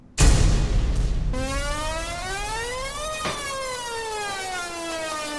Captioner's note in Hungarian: Éles szirénahang indul be